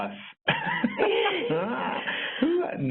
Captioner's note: laughs